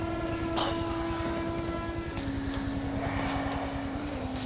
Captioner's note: rapid gunfire banging; helicopter chuffing